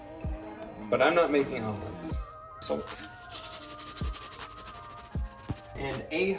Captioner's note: salt shakes